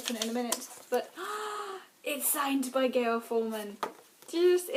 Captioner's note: gasps